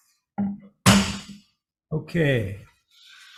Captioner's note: gavel bangs